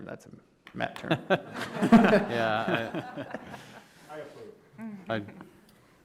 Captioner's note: everyone laughing